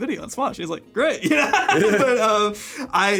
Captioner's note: laughs